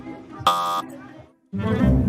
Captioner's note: buzzer blares